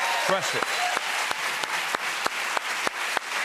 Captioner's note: cheers and applause